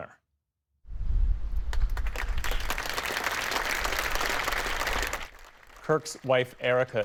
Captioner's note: applause